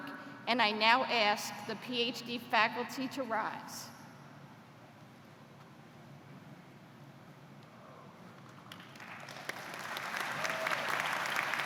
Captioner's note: applause